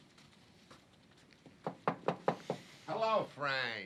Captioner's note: knocks on door